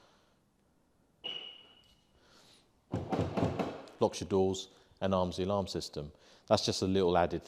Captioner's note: beep